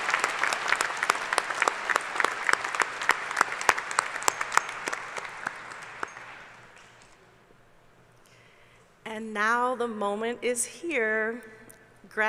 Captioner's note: applause